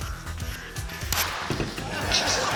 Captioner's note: pop!